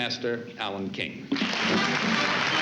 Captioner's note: applause; fanfare playing